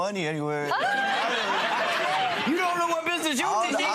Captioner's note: audience laughing